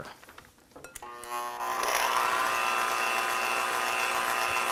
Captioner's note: mixer whirring